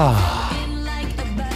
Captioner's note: exhales